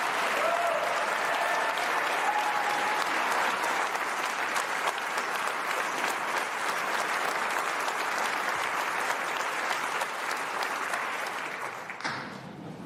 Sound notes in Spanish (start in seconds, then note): 2.0 aplausos